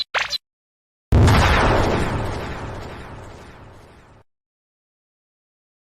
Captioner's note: boom